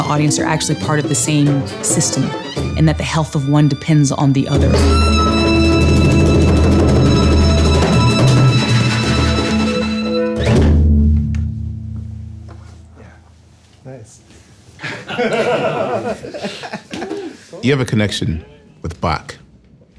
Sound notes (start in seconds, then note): 5.5 upbeat jazz music; 14.8 group laughing